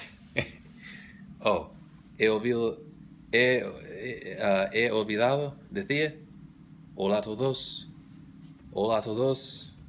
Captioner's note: spanish